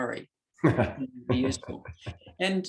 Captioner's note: chuckles